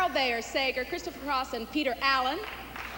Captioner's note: applause